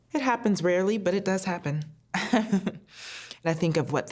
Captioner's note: chuckles